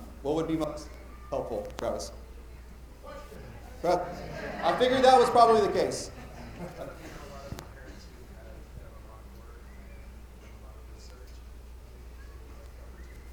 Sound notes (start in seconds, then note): 7.7 speaking quietly